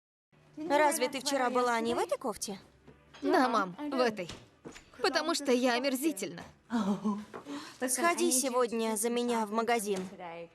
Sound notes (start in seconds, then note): 6.7 laughs